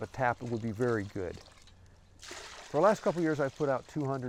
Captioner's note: sap pouring